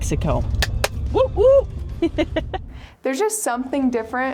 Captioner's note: clapping; laughing